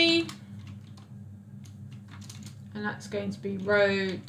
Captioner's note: keyboard clicks